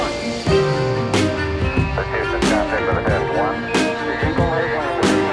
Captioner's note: dramatic music; astronauts speaking faintly